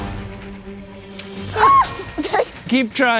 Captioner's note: shrieks